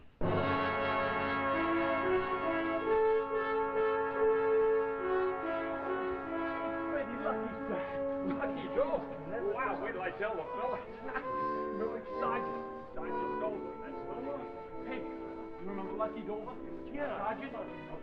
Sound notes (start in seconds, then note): 0.1 theme music; 10.8 excited murmurs